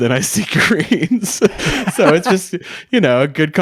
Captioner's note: laughing